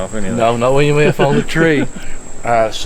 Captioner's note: laughs